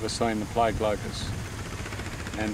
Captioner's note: motorbike rumbling